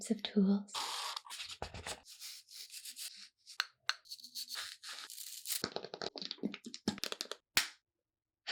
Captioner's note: ASMR sounds